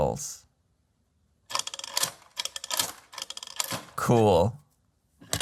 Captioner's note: prototype clicking, marbles dropping